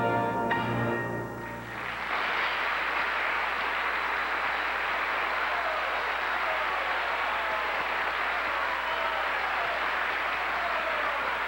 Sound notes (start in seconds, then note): 1.6 applause; 6.0 CHEERS and PLAU